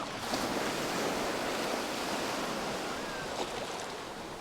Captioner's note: waves whoosh